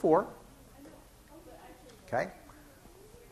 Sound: crowd murmuring outside classroom

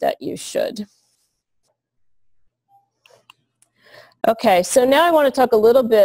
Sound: pause

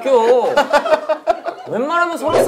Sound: laughing

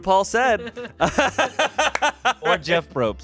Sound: everyone laughs

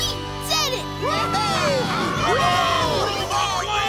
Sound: cheering

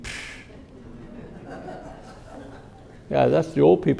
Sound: audience laughing

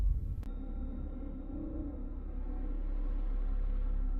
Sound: dramatic sounds

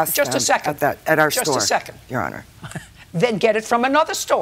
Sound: chuckles

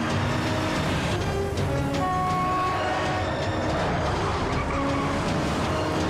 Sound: honk

